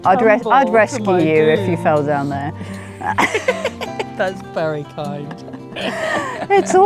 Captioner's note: giggles